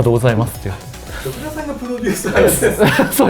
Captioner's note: laughs